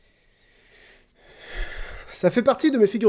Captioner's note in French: soupir